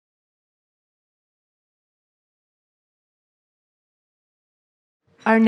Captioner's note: silence